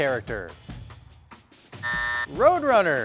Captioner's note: suspenseful music; buzzer buzzing